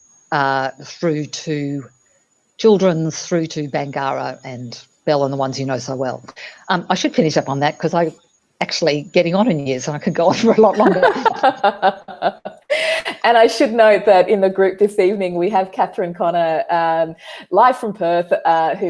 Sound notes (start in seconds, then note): 10.2 laughs